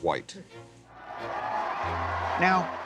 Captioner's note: audience cheers